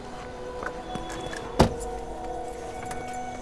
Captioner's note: Car door closes